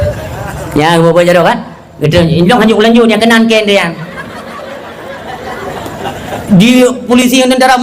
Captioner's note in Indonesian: tertawa